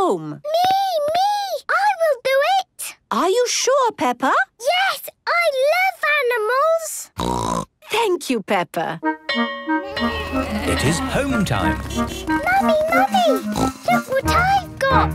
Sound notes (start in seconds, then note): 7.2 snorting; 9.3 bell clanging; 11.6 honking